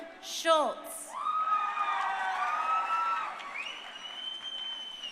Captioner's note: crowd cheering